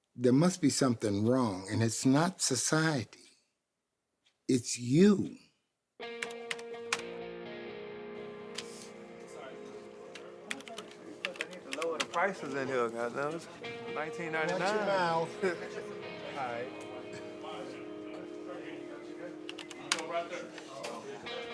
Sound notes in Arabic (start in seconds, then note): 10.4 الكتابة على لوحة المفاتيح; 11.7 عزف موسيقى الجيتار